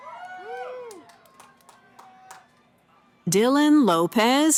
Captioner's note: cheering